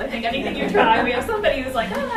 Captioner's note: attendees laughing